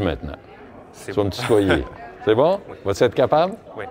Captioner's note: laughs